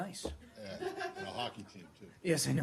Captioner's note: laughter